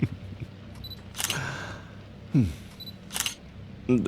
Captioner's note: SFX: Photos being taken